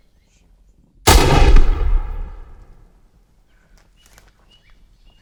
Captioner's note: gun fires